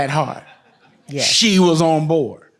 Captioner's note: audience laughs